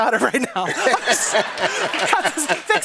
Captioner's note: laughter